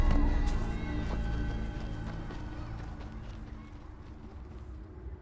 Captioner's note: foreboding music; footsteps crunching